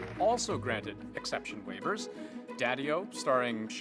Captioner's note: cheering and applause